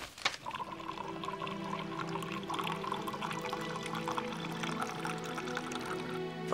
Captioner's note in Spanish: vino gorgoteando; música suave